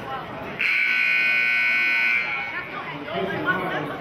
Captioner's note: buzzer sounding